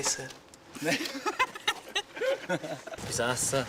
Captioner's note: laughs